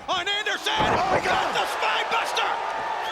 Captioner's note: crowd clamoring; body thudding